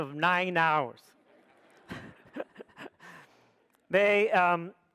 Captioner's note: audience laughs